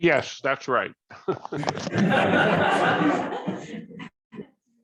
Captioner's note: laughter